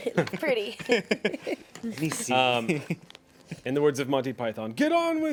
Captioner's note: man and woman laugh